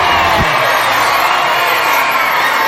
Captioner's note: all cheering; shouting loudly: "🥇😆😄😃congratulations!!!!!!!!!😄"